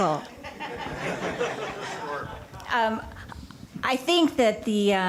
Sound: crowd laughter

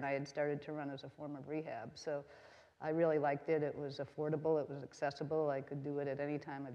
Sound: none

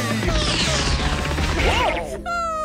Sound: upbeat music; crying

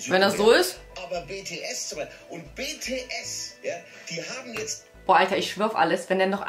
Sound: keeps saying it in a werid German accent

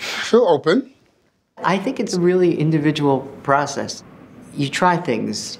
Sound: narrating

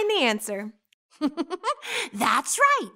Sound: star giggles

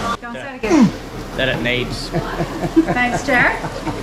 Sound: laughs

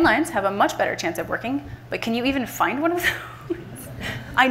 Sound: laughs

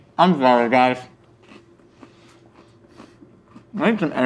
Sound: crunches loudly

